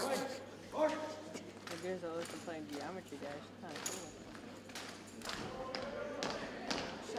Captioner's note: cadets thump rhythmically